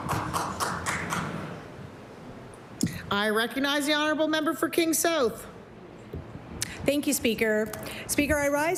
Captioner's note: applause